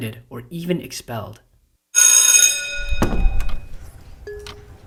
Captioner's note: bell rings